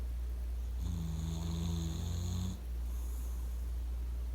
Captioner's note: with this dad's snoring sound